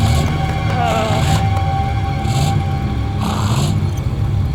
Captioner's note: motor revving